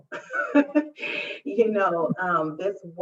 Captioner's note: laughs